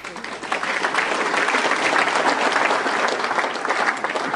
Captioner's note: audience applauding